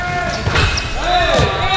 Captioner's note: ball hits rim; upbeat pop music